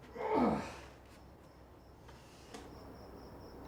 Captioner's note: groans